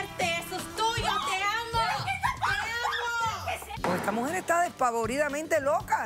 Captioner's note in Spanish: gritos